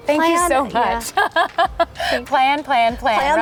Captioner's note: chuckling